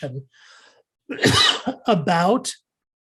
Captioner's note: coughing